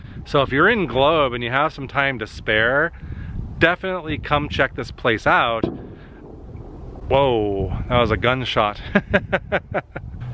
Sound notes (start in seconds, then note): 5.6 bang; 8.8 laughter